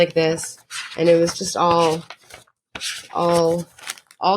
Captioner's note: paper crinkles